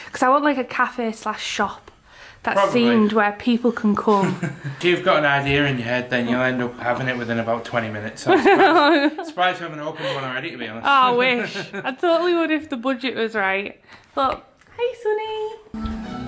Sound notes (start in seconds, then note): 8.4 laughs